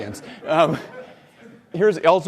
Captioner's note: audience laughs